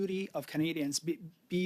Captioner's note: speaking French